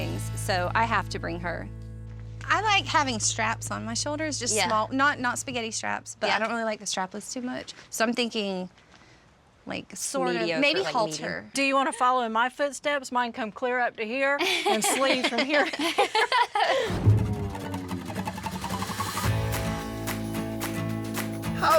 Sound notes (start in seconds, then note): 14.4 everyone laughing